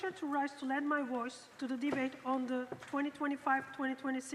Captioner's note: speaking French